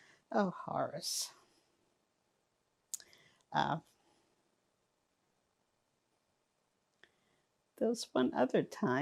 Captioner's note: pauses 6 seconds